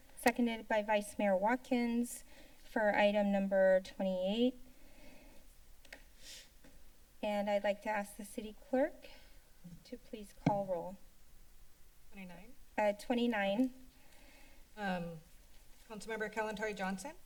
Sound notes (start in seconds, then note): 4.6 silence; 6.2 sniffles; 10.4 mic thump; 13.6 silence